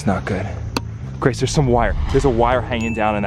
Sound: bell dings

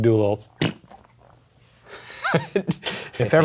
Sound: blows raspberry; laughs

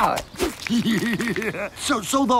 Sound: laughing

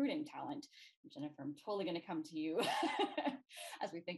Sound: laughs

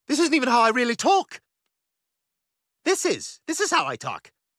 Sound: with american accent

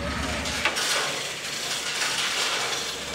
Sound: sound of metal chains clanking

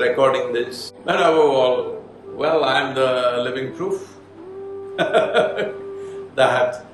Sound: laughs

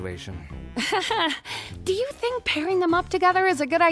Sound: laughs

